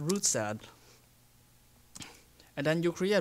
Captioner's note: pause